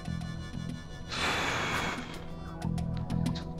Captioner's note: exhales